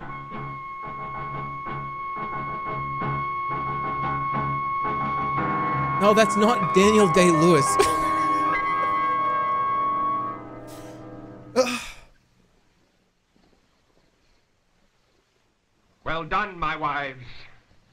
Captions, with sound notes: No, that's not Daniel Day-Lewis. [laughs] [sighs] Well done, my wives.